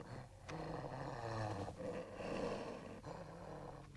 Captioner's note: dog growling